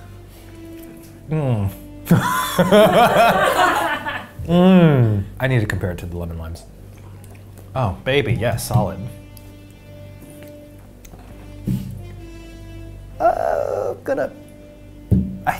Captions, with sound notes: Mm? (everyone laughing) I need to compare it to the lemon-limes. Oh, baby, yeah, solid. I'm gonna...